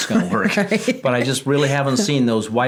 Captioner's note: laughing